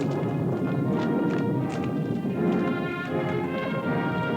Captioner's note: thunder rumbling